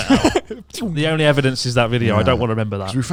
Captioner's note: laughs